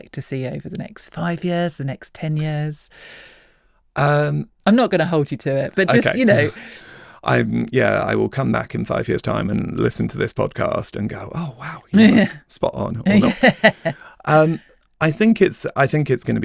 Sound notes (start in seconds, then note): 5.9 chuckles; 13.0 laughs